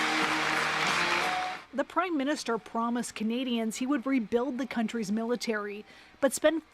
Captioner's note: applause